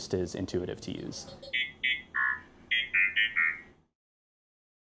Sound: droid beeps

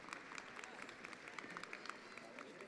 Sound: attendees applauding

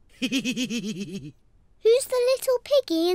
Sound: laughs

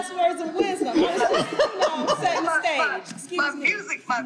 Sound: group laughing

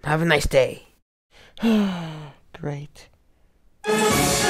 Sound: sighs

